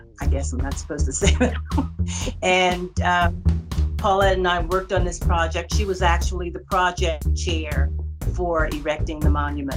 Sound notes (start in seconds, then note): 1.2 laughter